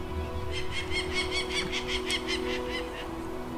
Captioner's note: bird calls